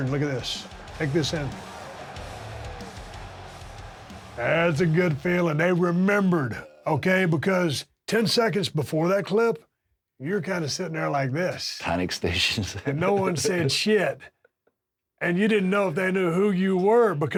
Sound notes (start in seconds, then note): 2.5 heavy metal music; 3.7 crowd cheering; 12.4 chuckles